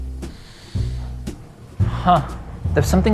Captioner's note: gentle upbeat music; sniffing